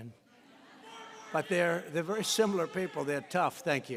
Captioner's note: laughter